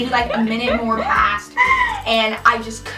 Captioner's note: giggling